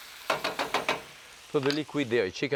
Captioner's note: pan sizzling; spoon tapping